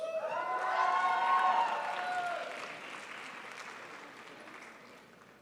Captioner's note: crowd applauds